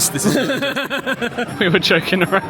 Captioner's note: laughs